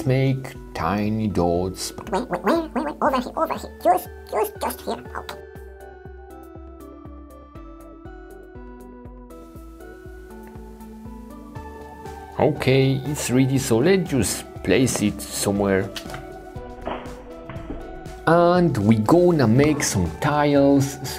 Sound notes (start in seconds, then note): 6.0 playful electronic music; 17.4 clay whooshes and thuds